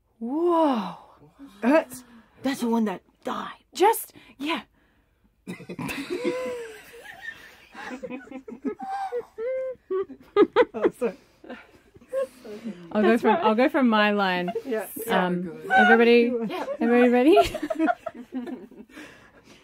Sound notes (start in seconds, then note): 5.5 everyone busts up laughing; 14.0 laughter continues; 16.7 containing laughter; 17.8 laughter